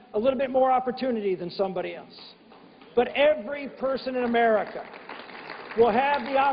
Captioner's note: applause